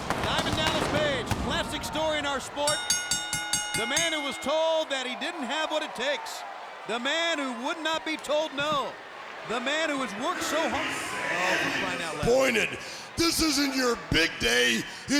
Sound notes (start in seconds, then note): 2.6 bell ringing